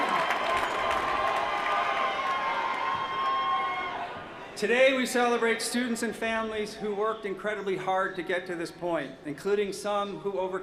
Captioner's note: cheers & applause